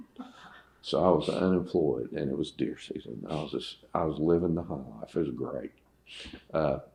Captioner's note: laughter